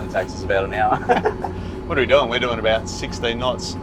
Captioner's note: laughs